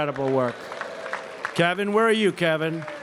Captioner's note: applause